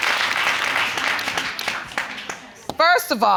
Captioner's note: audience applauding